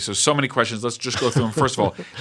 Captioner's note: laughter